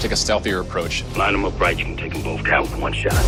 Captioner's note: radio